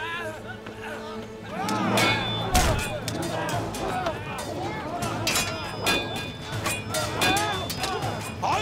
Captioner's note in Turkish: Dövüş sesleri